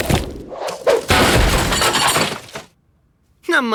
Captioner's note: crashing